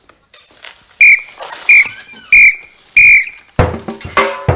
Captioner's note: four whistling sounds; drumming sounds